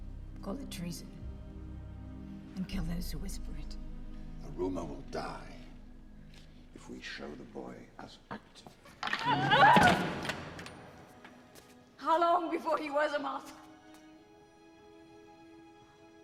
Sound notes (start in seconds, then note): 9.1 screams